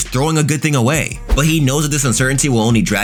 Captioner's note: air whooshing